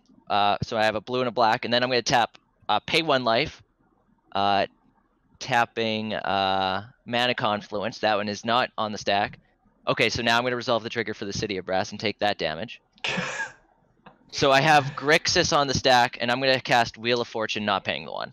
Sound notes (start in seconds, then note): 14.6 laughs